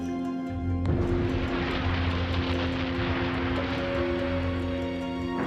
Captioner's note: explosion